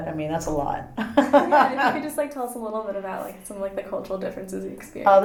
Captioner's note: laughs